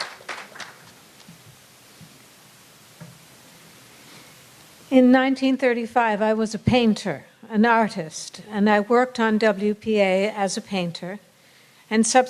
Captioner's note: applause